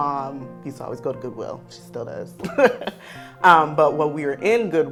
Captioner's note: laughs